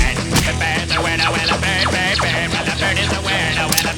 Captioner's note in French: Bruit de tirs laser; Clic